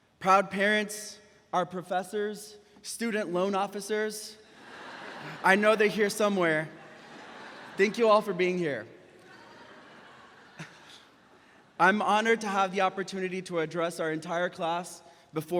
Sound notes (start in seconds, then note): 4.7 graduates laughing; 9.1 chuckles